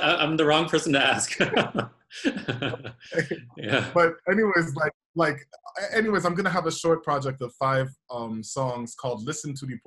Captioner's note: laughter; laughter